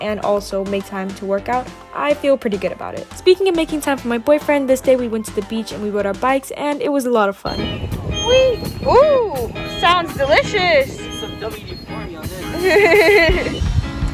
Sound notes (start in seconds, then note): 7.4 swing creaks because its rusty; 13.3 laughs